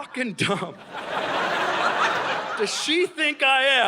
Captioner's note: audience laughing